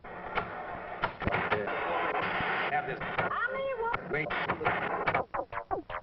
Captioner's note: television crackling